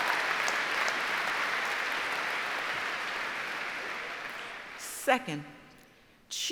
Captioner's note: applause